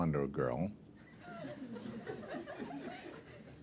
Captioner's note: laughter